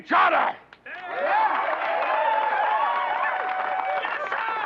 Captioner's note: cheers and applause